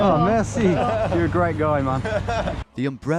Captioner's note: laughing; laughs